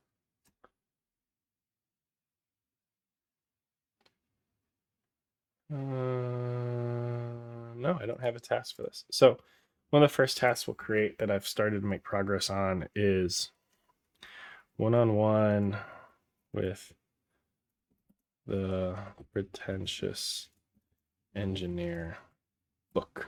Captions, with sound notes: (humming) No, I don't have a task for this. So one of the first tasks we'll create that I've started to make progress on is one on one with the pretentious engineer book.